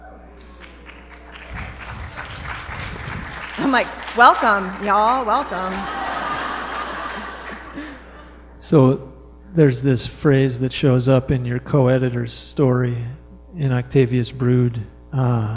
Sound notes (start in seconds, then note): 0.4 applause; 5.5 laughter